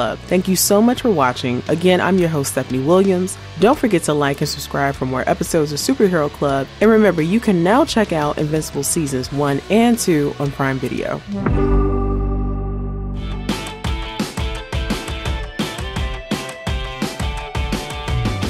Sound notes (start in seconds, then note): 11.3 logo chiming; 13.4 upbeat music